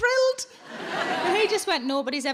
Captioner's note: audience laughing